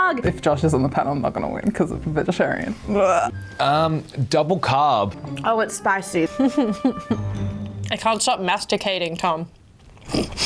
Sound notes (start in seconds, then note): 6.4 laughing